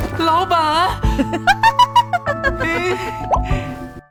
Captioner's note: giggles